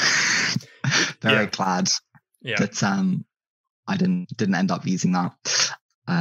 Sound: laughs

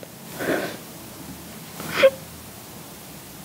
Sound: sobbing

